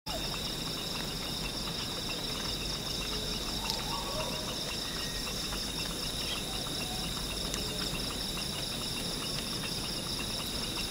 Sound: sounds of forest and fluttering

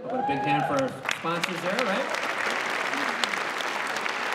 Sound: applause

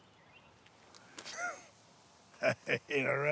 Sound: chuckles

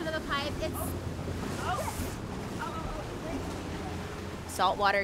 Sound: water rushing

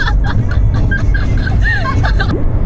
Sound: laughing like a dolphin

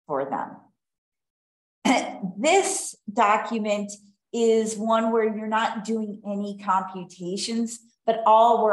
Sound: coughs

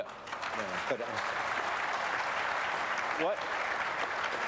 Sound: applause

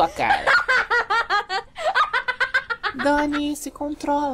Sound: loud laugh

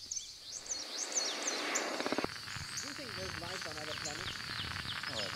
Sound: static crackling

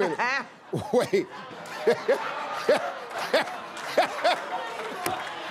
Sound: laughter

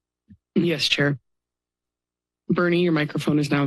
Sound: pause

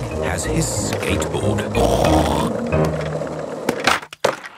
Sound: snorts

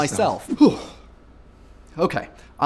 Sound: shudders

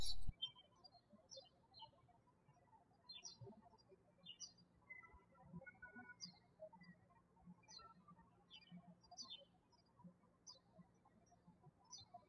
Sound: birds chirping

